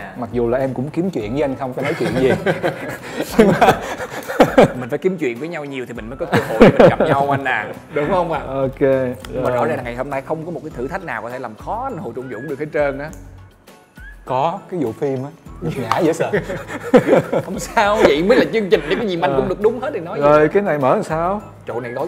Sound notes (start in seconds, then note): 1.8 laugh